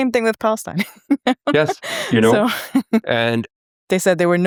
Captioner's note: chuckles